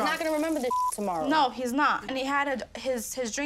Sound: beep

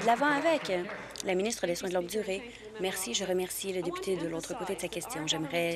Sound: applause

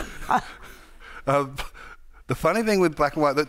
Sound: both chuckling

